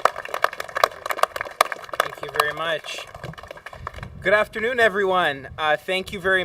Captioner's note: applause